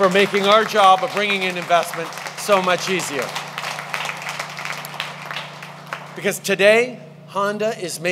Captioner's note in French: Applaudissements